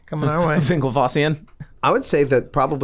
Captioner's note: laughs